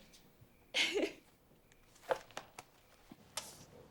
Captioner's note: Eliza laughs